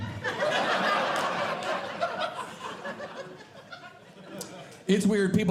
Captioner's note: audience Laughing